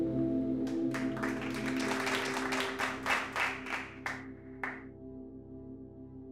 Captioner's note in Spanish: aplauso